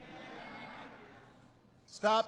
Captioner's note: laughter